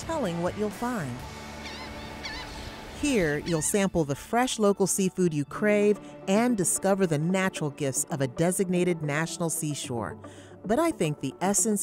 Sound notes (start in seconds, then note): 3.1 seabird squawking